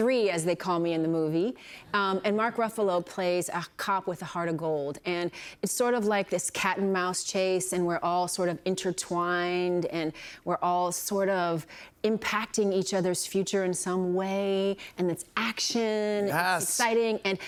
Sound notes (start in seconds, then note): none